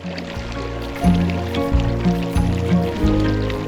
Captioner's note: running water